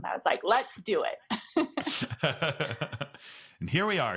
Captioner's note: both laugh